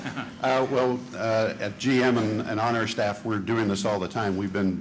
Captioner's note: laughter